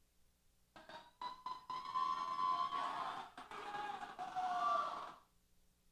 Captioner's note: cheers